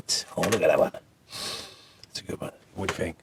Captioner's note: indulgent sniff